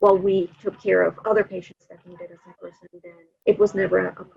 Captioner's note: audio blurs